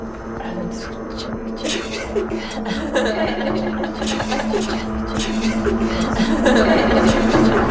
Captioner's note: all laughing